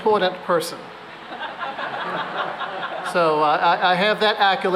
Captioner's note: laughter